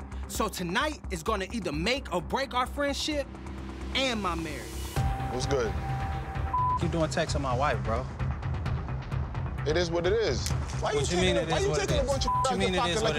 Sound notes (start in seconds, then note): 6.4 beep; 12.2 beep